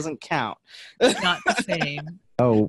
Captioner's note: laughs